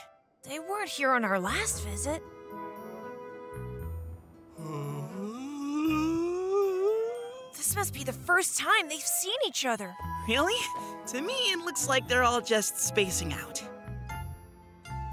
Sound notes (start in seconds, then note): 4.5 yawning